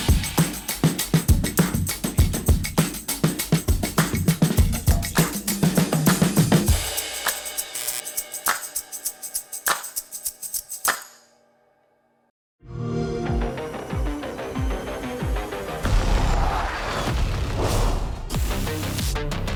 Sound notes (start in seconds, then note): 12.5 xbox sound; 12.7 electronic music